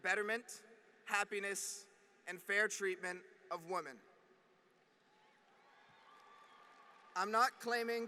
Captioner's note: applause